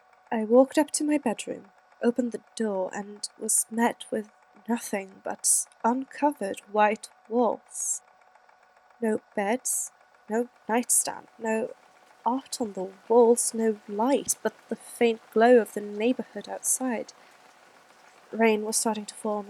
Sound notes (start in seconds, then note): 7.9 fx: quiet rain